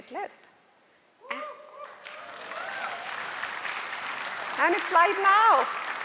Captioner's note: audience cheering and applauding